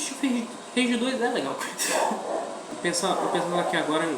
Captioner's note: laughs